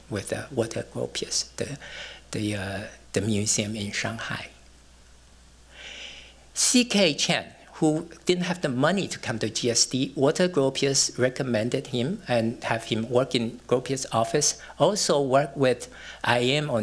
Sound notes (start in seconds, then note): none